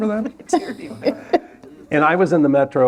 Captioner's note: laughter